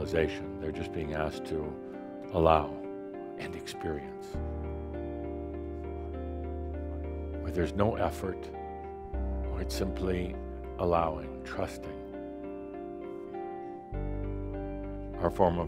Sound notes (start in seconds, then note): none